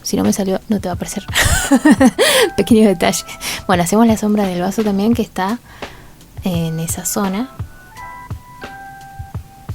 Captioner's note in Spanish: risas